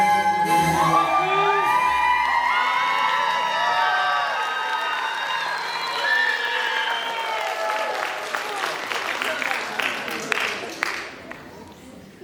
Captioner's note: applause